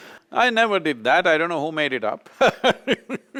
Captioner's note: laughs